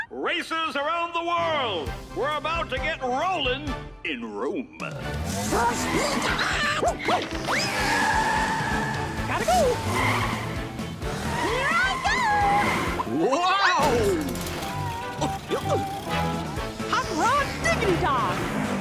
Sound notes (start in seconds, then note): 7.0 barks; 14.7 laughing